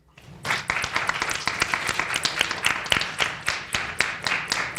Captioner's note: people clapping